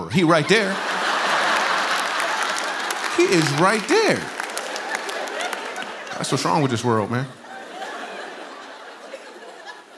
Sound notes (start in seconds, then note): 0.2 laughter